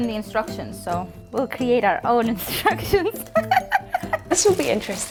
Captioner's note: laughs